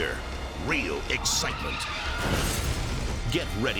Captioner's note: explosion booming